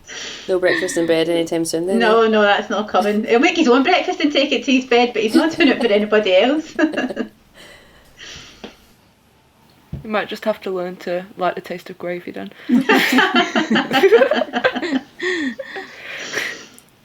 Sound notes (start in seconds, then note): 6.3 laughs; 12.7 laugher